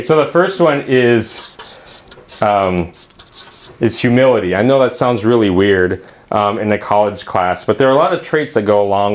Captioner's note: uumm